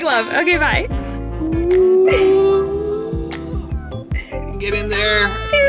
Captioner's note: laughs